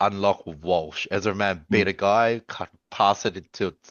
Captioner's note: laughs